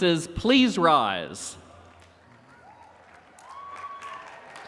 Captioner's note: applause and cheering